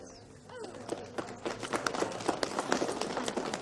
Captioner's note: applause